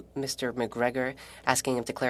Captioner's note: speaking French